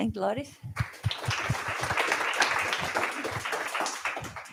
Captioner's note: applause